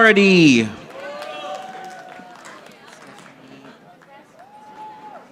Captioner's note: audience applauding